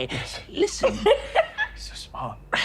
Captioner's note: laughing